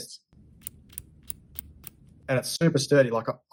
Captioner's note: mechanism clicking